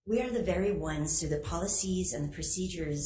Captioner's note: none